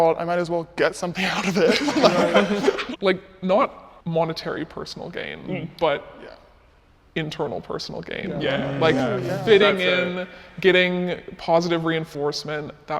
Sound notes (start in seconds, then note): 1.1 people laughing